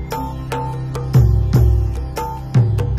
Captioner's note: none